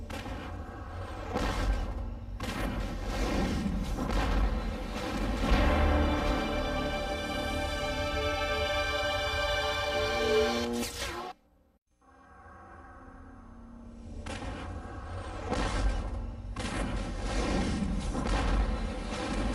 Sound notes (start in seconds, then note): 5.5 crescendo chord playing; 10.6 mechanical sounds; 12.1 dramatic sounds